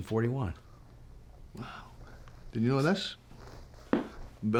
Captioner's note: scottish accent